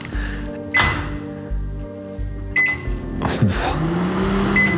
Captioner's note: microwave beeping